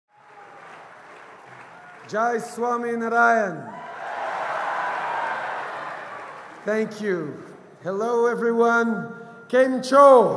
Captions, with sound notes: Jai Swaminarayan. (Cheers & applause) Thank you, hello everyone, kemccho!